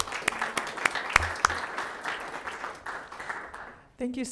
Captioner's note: applauding